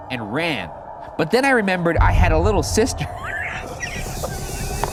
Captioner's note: laughs; snickers